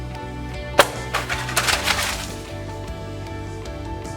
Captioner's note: slapping thump and falling crash